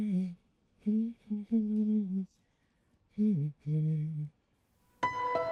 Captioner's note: humming